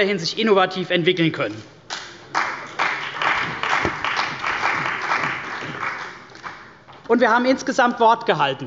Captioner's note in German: Beifall bei der CDU und dem BÜNDNIS 90/DIE GRÜNEN